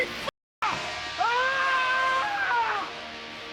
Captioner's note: dog screams